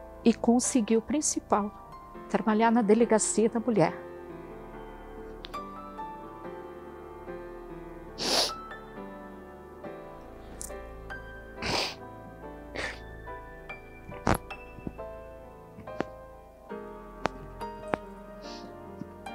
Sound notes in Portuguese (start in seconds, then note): 5.4 Suspiro de choro